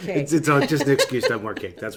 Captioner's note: laughs